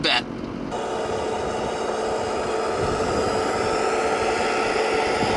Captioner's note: truck engine roaring